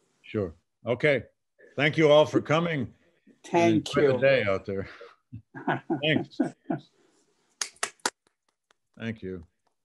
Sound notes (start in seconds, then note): 5.4 laughs; 7.6 claps